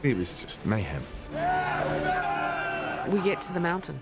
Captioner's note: all cheer